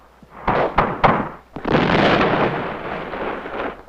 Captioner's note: guns blasting